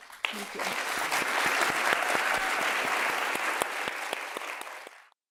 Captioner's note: applause